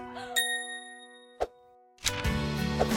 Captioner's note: ding